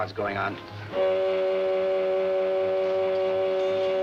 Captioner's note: foghorn blaring